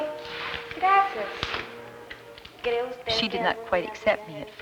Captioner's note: speaking Spanish